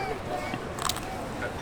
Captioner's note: crunch sound